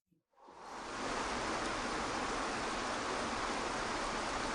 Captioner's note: water trickling